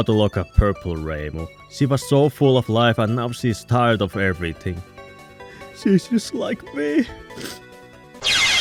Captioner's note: sniff